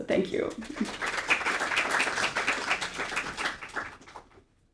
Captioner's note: audience applauding